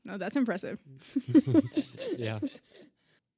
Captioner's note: all laugh